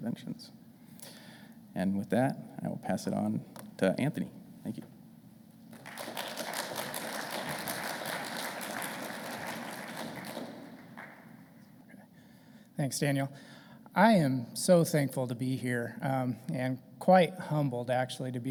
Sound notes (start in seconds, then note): 5.7 audience applauding